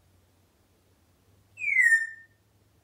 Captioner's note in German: whistling